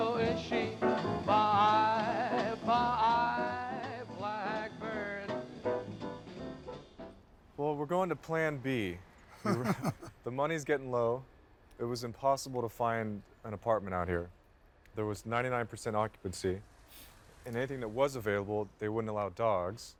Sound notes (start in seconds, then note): 9.3 laughs